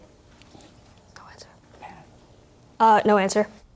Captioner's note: whispering